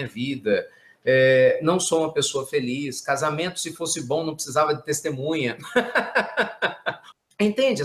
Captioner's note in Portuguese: risadas